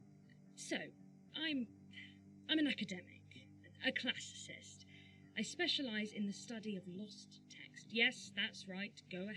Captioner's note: sighs